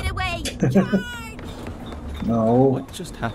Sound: chuckles

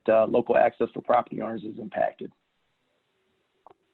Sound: faintly speaking

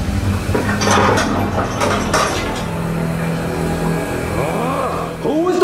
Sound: toilet bowl handle jiggling; Bowser grunting

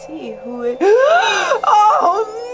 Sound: gasps

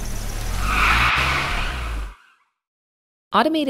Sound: car breaks squeeling

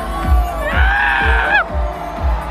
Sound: screams with joy

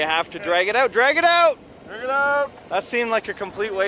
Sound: shouts

